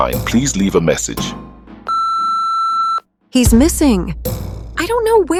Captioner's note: beep tone